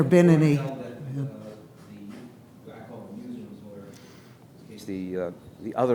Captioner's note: faintly speaking